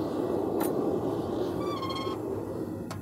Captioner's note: oven door squeaks